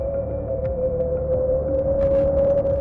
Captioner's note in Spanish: silbido del viento